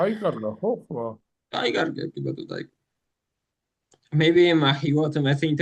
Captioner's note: speaking in foreign language